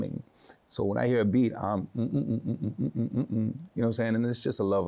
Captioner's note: hums